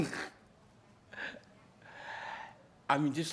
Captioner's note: laughs